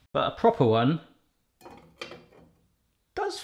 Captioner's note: none